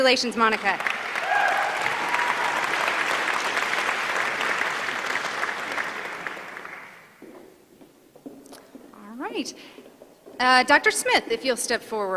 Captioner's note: applause